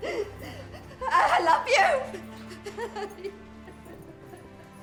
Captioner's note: crying